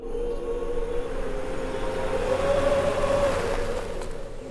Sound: car noises; whooing

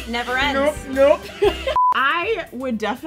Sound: beeping

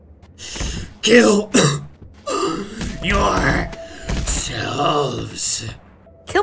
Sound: cough; wheeze

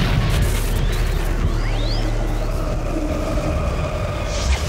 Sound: thunder and static sound effects

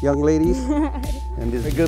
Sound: laughing

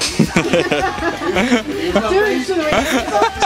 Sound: laughing

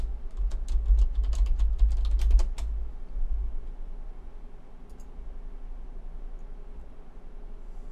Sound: keystroke sounds and clicking

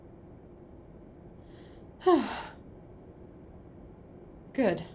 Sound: sigh of relief

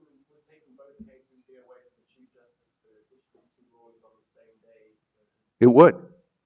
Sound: man in blue check shirt speaks faintly

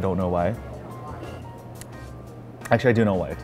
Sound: sipping drink

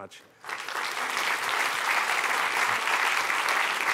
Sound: applause

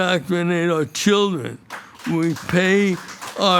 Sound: audience applauding

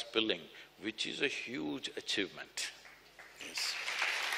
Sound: applause

